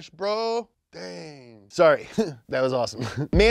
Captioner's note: chuckles